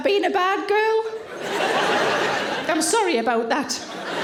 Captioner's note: audience laughing